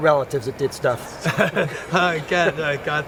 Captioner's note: laughing